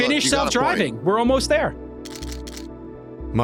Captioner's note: camera shutter clicking